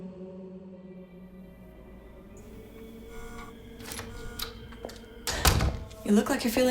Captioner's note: door opens